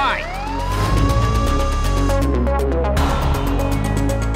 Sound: siren wailing; tense music playing

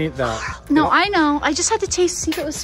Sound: gasps

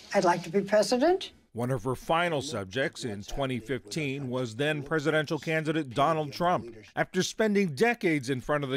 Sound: voice-over

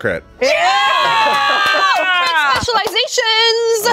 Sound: all cheering

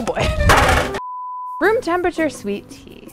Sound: crashing; beep

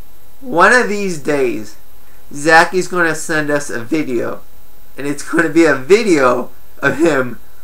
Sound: chuckles

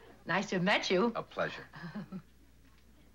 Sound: laughs

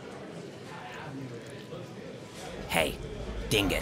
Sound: people murmuring

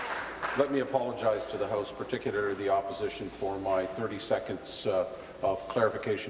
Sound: applause

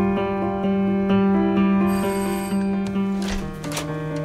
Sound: doorbell

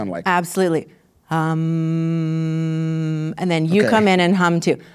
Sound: humming

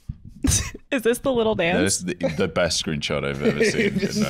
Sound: laughs

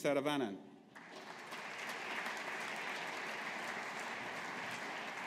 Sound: audience applauding

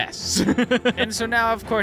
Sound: laughing

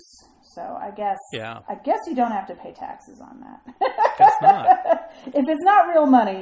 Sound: laughs

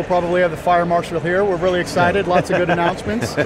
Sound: host laughs

